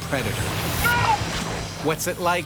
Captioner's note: screams and splashes